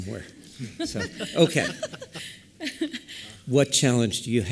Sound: laughter

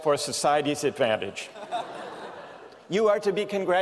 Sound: laughter

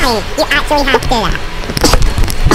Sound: high Pitched

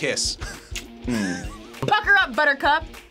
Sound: kisses

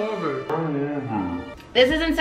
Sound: distorted

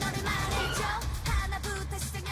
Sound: car squeaks

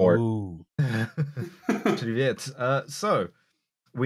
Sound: slight laughter

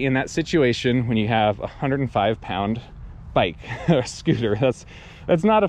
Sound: chuckles

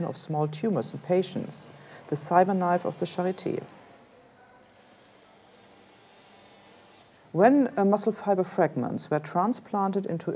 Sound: machine whirring

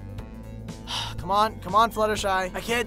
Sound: twilight sighs

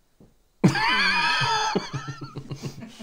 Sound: childish Laughter

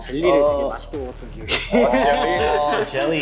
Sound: speaking Korean

